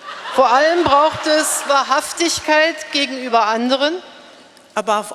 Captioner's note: speaking in German